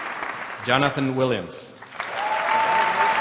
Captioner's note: applause; applause